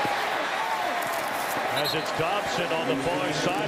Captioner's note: cheers and applause